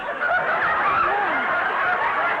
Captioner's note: audience laughter